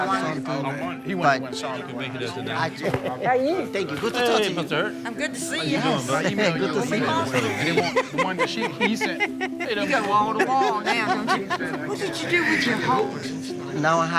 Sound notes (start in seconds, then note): 3.8 laughing; 3.8 overlapping chatter